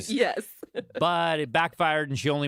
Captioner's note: laughs